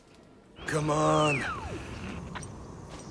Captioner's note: radio beeps